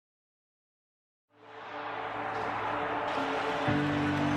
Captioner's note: people cheering; upbeat music